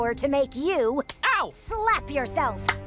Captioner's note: slap